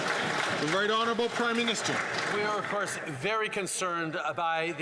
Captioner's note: some Applause